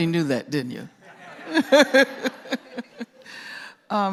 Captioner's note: laughter